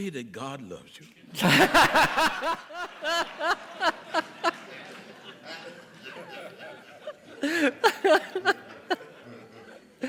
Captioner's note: audience chuckles